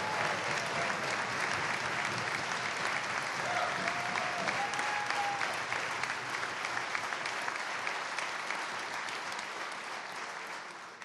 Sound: cheers and applause

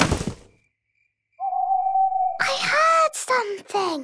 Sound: owl hooting; hooting

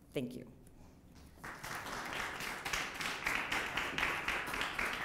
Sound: applause

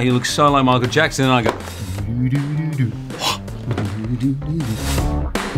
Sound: hums

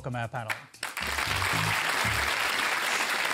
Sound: applause

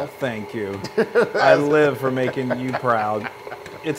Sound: laugh

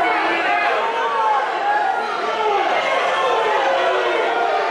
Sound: crowd booing

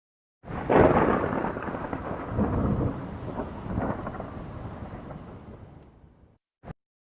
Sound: thunder

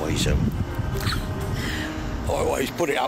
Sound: chuckles

